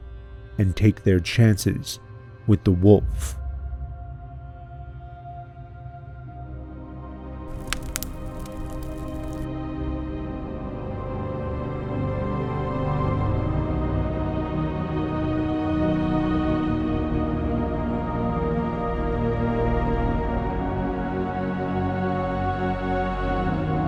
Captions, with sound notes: and take their chances with the wolf. [fire crackling] [haunting music]